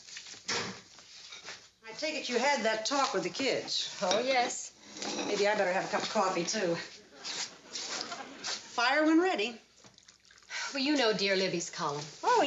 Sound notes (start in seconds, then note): 6.9 audience laughs softly